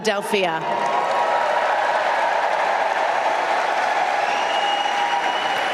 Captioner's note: applause